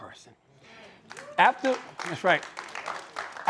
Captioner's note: applause